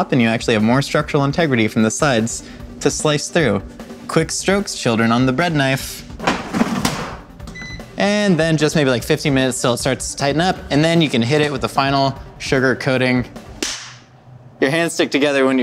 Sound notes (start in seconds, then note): 7.5 beeping; 13.6 clapping